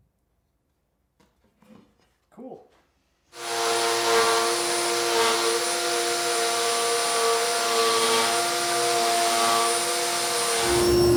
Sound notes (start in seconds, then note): 3.3 saw whirring